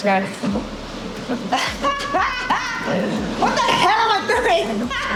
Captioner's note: laughs